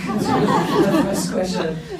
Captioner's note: laughs